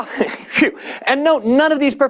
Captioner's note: laughter